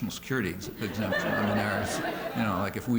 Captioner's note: laughter